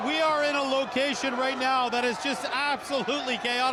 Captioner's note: cheers and Applause